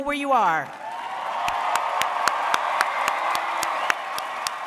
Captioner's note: audience cheers